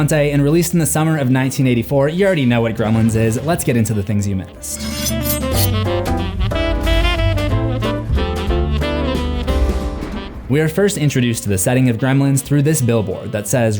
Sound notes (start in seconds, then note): 4.5 christmas music; 4.6 knives slashing